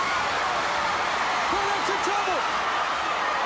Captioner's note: crowd cheering